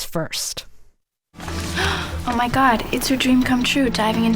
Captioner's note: As Regina George